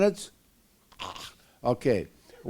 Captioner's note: choking